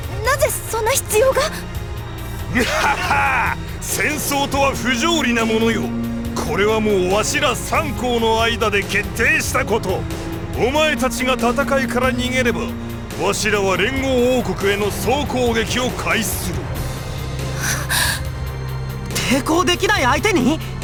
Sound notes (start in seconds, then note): 2.4 laugh; 17.6 gasp